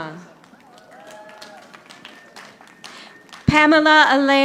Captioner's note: audience applauding